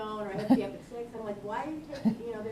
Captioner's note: laughs